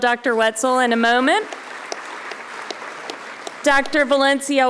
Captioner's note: audience applauding